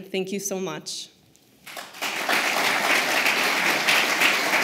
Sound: applause

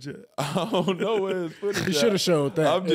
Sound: laughing

